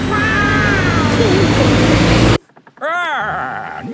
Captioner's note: laughing